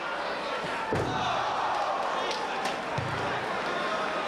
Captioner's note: spectators exclaiming